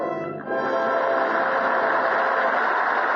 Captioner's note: applause